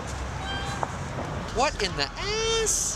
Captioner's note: swing squeaking